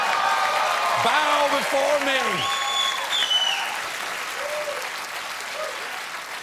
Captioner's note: applause